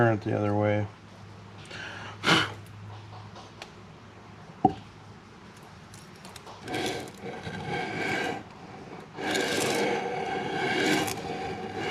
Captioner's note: groaning